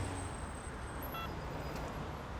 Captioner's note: phone beeps